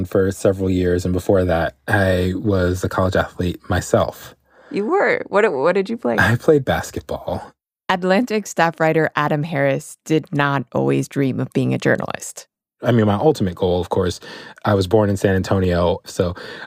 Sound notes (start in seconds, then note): 6.2 chuckling; 16.0 laughing